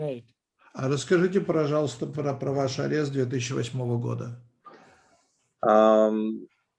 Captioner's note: translator speaking Russian language